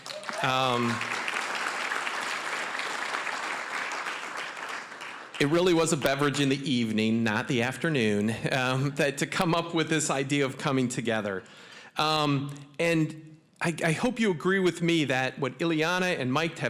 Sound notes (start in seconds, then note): 0.0 applause; 12.0 chuckling